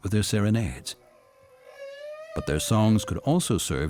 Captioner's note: whale singing